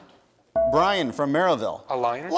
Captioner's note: bell rings